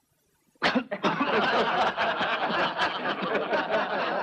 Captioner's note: coughs; laughing